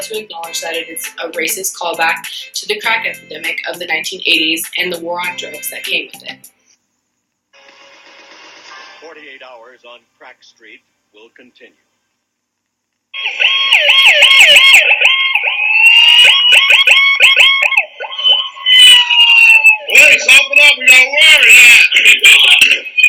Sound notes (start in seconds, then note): 14.8 sirens